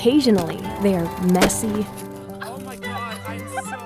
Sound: wood chopping; film roll clicks; friends chatting and laughing

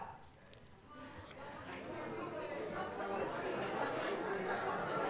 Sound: chatter

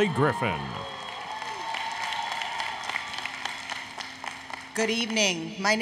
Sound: applause, Cheering

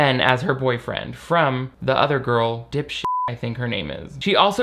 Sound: beep

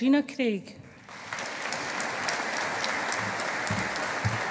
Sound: audience applauding

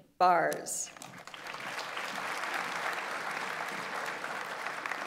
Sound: audience applauds

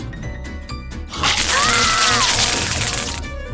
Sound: screaming

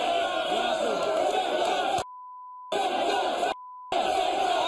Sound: audience jeering

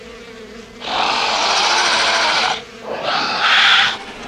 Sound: growling

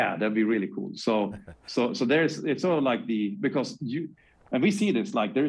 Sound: laughs

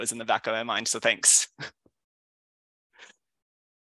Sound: chuckles

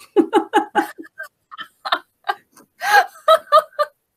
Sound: laughing

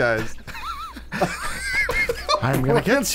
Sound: laughing

